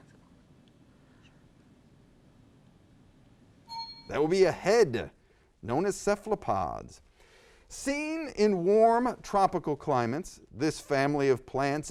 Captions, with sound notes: (bell dings) - That will be a head. Known as Cephalopods. Seen in warm tropical climates this family of plants is